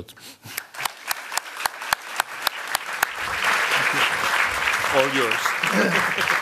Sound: applause

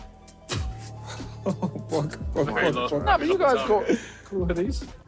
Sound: laughing

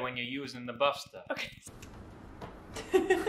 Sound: laughing

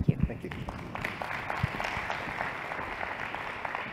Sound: applause

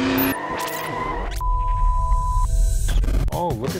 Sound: engine revving; tires squealing

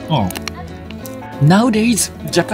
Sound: crunches

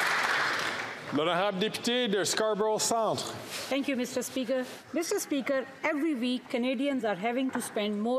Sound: some Applause

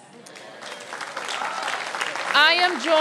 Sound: applause

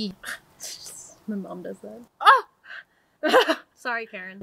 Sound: fake gasps and laughs

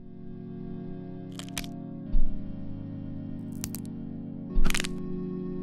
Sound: sound of bones being broken

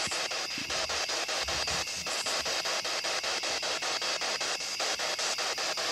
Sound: loud, choppy static

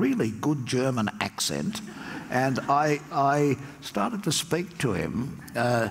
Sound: audience laughs

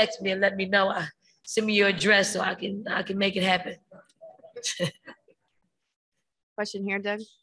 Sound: chuckles

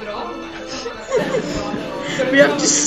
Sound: laughter

